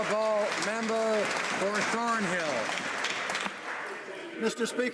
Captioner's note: some Applause